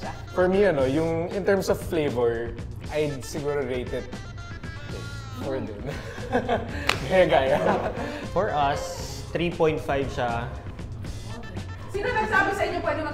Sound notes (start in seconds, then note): 5.6 chuckles